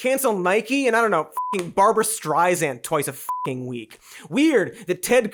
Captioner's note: beeps